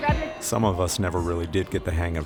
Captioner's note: voiceover